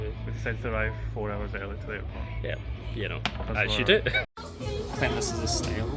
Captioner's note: laughs